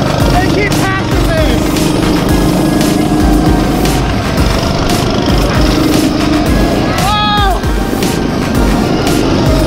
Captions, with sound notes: They keep passing me. (motors roaring) (shouting)